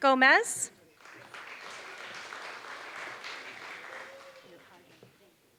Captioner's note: applause